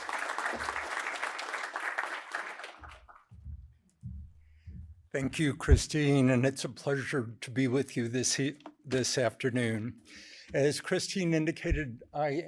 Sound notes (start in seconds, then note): 0.0 applause